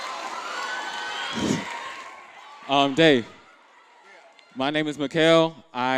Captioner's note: applause